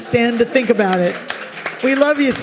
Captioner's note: audience applauds